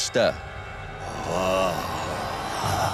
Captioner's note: horror music; growls